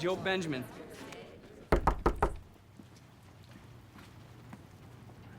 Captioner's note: knocking on door